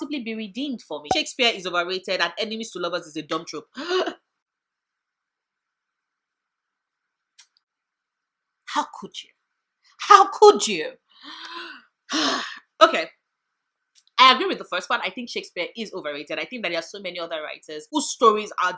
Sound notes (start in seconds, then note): 7.8 sigh